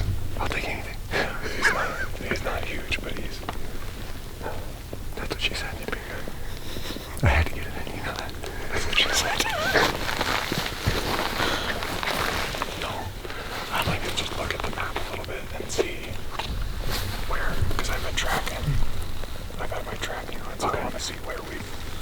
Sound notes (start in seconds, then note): 9.4 laughing